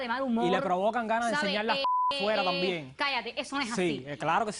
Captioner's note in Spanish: Bip